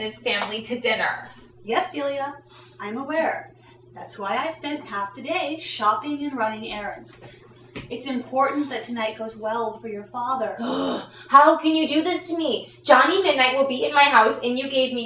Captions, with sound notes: Yes, Delia, I'm aware. That's why I spent half the day shopping and running errands. It's important that tonight goes well for your father. [groan] How can you do this to me? Johnny Midnight will be in my house and you gave me no warning whatsoever!